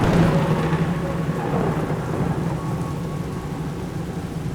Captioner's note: thunder crashing